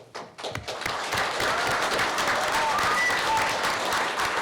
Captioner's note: applause